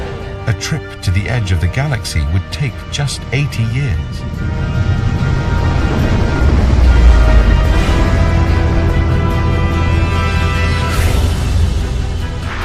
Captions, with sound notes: A trip to the edge of the galaxy would take just 80 years. (dramatic music continues) (spaceship roaring)